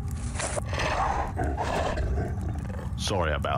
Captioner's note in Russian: успокоенное пыхтение